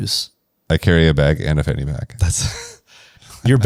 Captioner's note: laughs